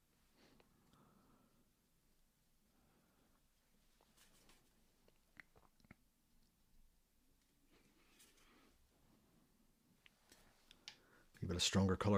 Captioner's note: silence